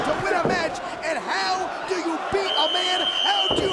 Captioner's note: whistling